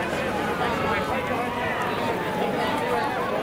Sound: ambulance siren

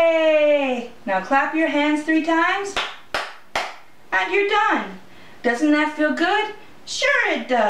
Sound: hand clapping

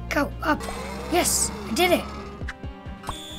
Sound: whirring; screeching noise

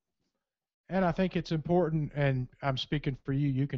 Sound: voiceover

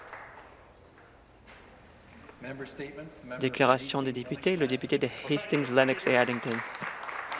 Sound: applause

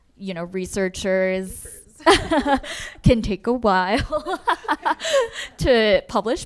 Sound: laughing

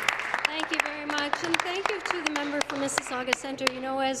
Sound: applause

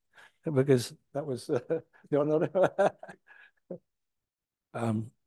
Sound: laughs

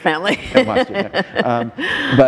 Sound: laughter

